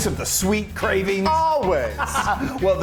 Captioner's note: laughing